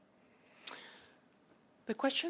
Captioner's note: speaking French